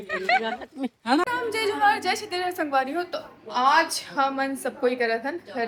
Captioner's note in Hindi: हंसी